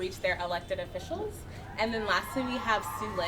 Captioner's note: people cheering in background